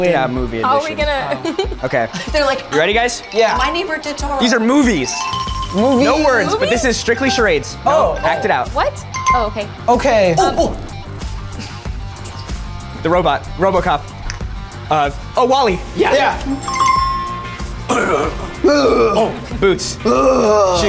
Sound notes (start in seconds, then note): 16.5 app chimes; 17.8 groaning